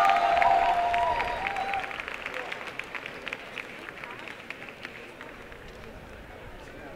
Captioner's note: applause and cheering